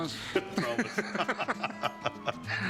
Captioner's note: laughter